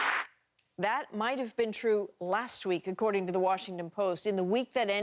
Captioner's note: applause